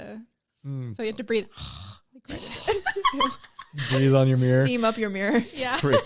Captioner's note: breathing noises